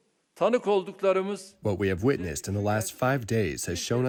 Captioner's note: through translator